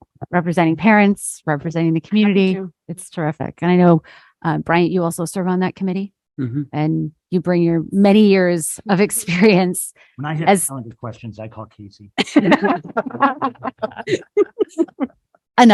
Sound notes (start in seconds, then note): 11.0 chuckles; 12.2 both laughing